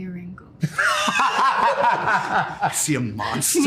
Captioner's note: laughter